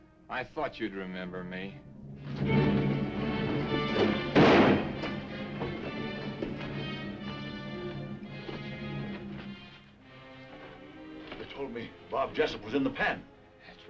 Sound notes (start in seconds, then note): 2.3 dramatic music; 4.2 gun firing; 6.1 dramatic music